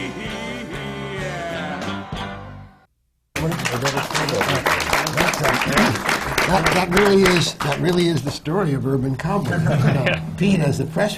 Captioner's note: applause